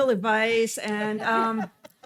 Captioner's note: laughing